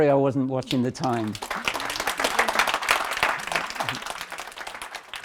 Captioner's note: applause